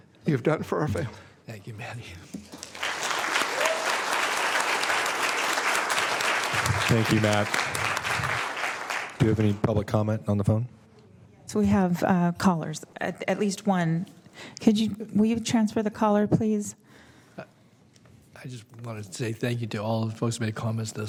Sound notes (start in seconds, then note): 9.2 applause